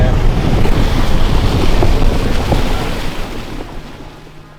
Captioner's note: water splashes